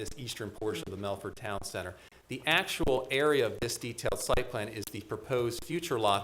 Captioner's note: none